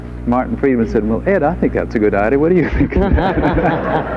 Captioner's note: and audience laughs; laughs